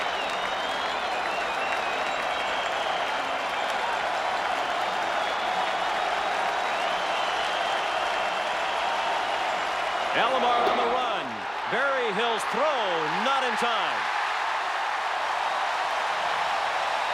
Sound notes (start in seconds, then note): 4.2 applause; 13.4 cheering and Applause